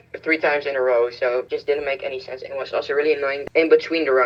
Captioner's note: none